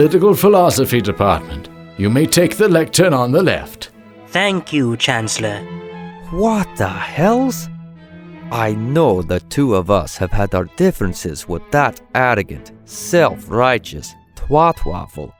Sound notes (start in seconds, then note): 6.9 whispers